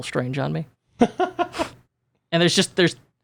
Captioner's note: laughs